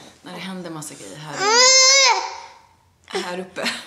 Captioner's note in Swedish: skriker till